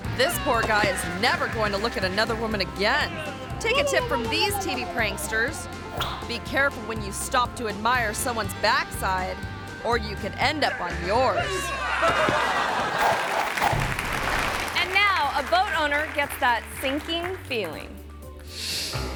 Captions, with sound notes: This poor guy is never going to look at another woman again. Take a tip from these TV pranksters. Be careful when you stop to admire someone's backside or you can end up on yours. (audience laughing) (audience applauding) And now a boat owner gets that sinking feeling.